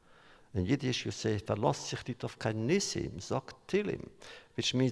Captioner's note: Yiddish